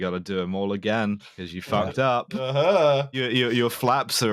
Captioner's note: singsong